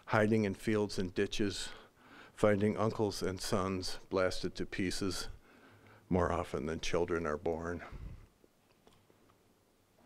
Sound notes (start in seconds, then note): none